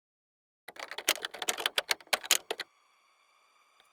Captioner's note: keyboard typing